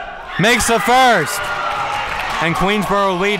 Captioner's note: crowd cheering